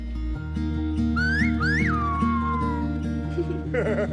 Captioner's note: whistling; laughing